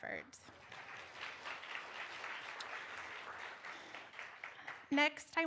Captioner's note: applause